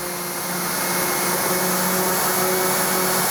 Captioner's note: powerful whirring